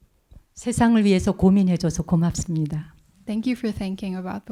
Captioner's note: speaking in Korean